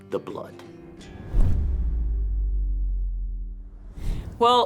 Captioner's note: logo whooshes